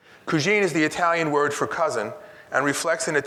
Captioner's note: speaks in Italian